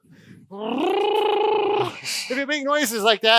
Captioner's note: buzzes lips